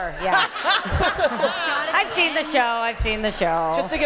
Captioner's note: laughter